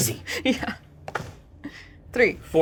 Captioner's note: chuckles